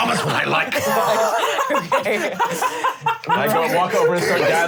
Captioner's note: laughing